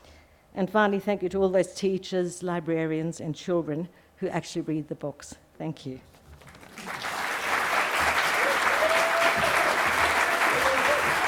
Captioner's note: applause